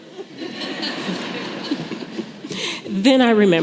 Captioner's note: laughter